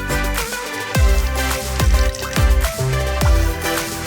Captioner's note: juice splashing